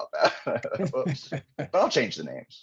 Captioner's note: laughing